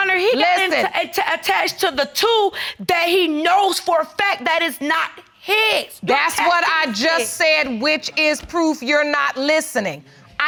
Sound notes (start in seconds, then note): none